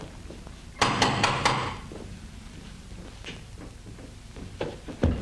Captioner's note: knocking continues